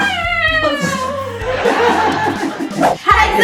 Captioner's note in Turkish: Gülüşmeler